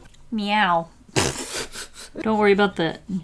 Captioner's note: laughs